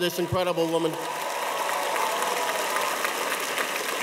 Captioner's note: audience applauds